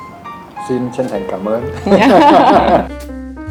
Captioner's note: laugh